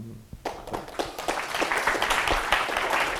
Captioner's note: applause